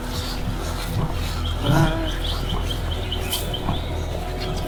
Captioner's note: birds chirping